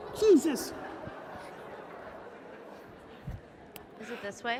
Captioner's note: audience laughing